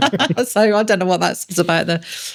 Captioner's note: laughing